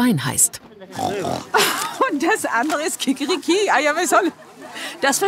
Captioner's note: grunt